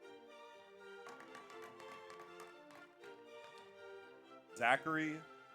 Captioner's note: audience applauds; audience cheers